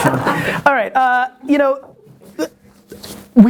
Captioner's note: laughter